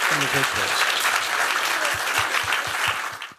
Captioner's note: applause